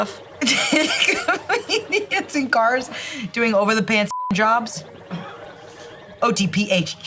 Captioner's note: beep